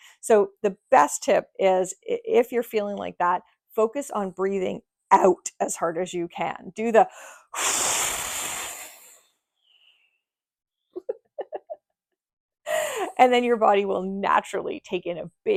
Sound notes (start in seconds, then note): 7.1 exhales